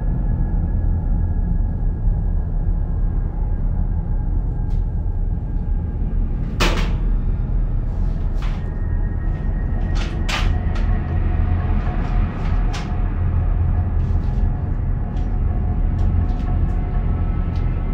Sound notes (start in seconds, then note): 6.6 toolbox thuds